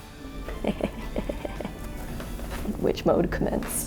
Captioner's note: laughs